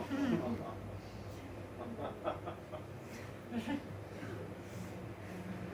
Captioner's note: audience laughing